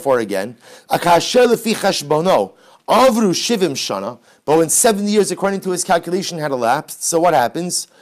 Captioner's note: Hebrew